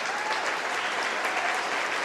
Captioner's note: cheering